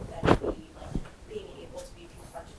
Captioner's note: speaking off mic